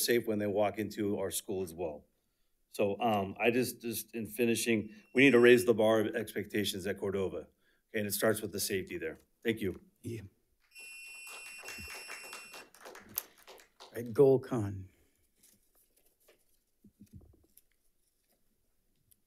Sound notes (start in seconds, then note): 10.6 timer sounding; 10.7 audience applauds